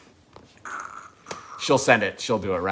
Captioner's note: wincing